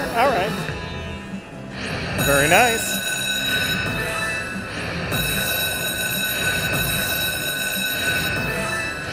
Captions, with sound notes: All right. Very nice! (bell ringing)